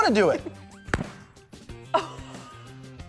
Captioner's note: fire popping; laughs